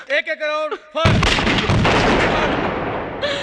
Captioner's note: gun Firing